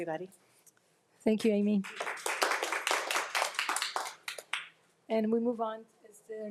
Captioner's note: group applauds